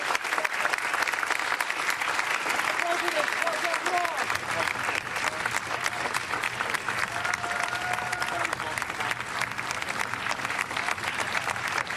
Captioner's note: applause; cheers and applause